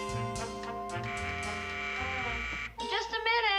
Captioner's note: buzzer rings